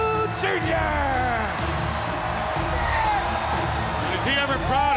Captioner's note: crowd cheering; dramatic music